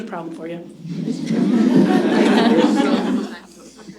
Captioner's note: laughter